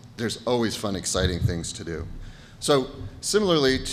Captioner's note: none